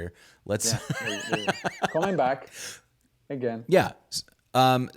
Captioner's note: laughing